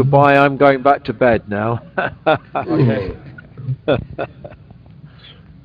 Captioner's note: laughs